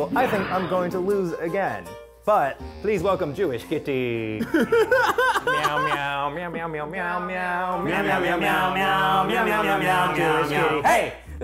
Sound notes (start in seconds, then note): 4.4 laughter; 4.7 meows in the tune